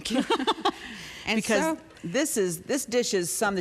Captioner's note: chuckles